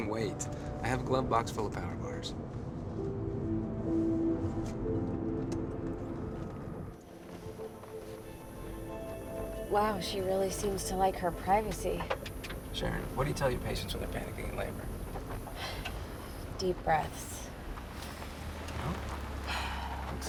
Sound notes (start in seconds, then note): 2.7 slow soft music; 15.5 sighs